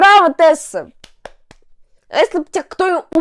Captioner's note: claps